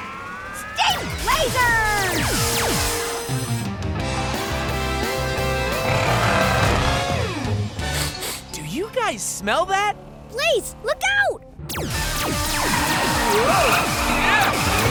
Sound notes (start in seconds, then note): 7.8 sniffing